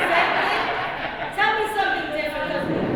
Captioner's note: laughs